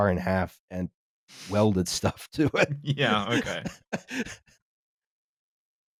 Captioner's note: laughs